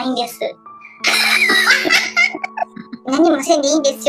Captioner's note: laughs